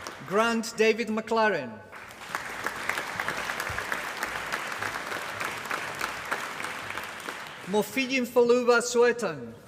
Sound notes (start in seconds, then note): 1.9 applause